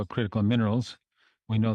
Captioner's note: speaking French